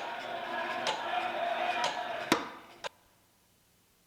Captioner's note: ticking